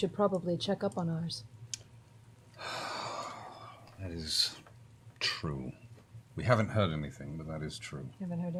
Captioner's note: long sigh